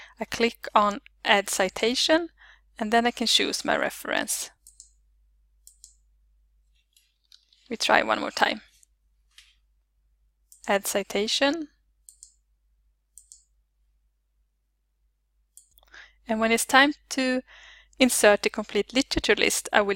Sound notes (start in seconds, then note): 13.1 clicks